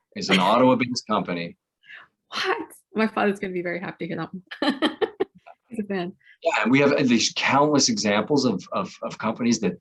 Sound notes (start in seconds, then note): 4.7 laughs